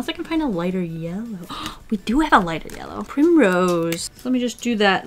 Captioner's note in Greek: Κοφτή ανάσα